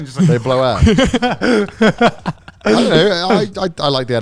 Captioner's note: laughing